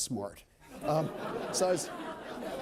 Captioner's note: laughter